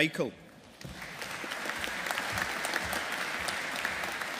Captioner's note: audience applauding